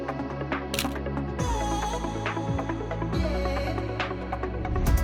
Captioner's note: shutter clicking